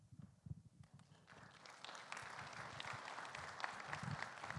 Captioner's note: audience clapping